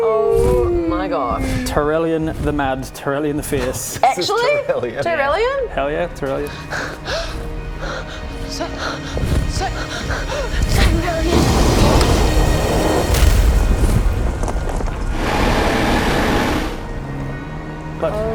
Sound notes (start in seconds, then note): 6.6 gasp!; 15.2 roars magnificently